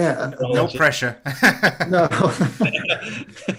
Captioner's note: laughter